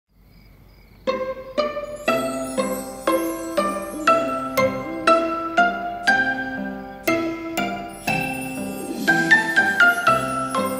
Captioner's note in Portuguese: Som do grilo; Música do berço